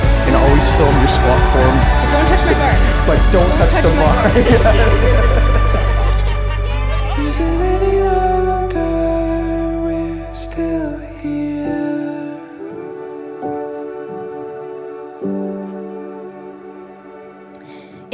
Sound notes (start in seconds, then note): 6.6 laughing